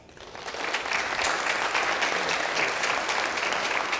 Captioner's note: applause